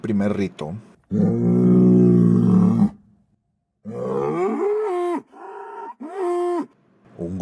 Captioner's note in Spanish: Bramido de toro se escucha a lo lejos